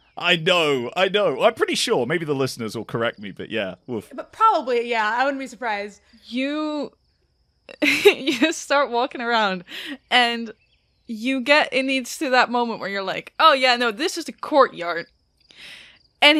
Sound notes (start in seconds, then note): 7.8 chuckles